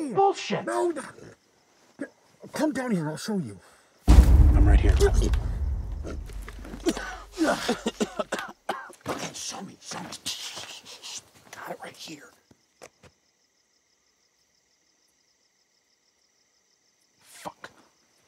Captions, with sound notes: - Bullshit! - No. Come down here and I'll show you. (dramatic music) - I'm right here. (killer coughing) Okay, show me, show me. - Shh, shh, shh, shh. Got it right here. (crickets chirping) - Fuck.